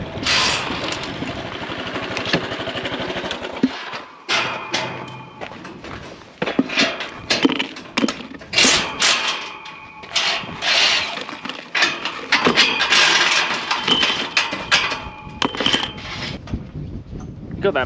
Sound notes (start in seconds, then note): 5.5 drill whirring